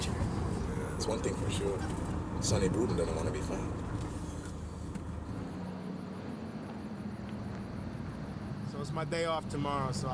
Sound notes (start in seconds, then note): 5.3 insects chittering; 5.3 car engine roaring